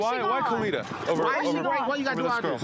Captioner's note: overlapping chatter